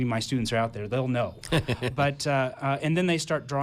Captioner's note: laughing